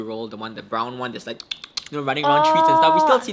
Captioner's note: mimic squirrel noises